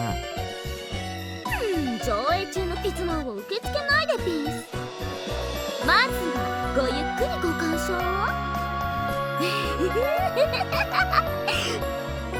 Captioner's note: giggle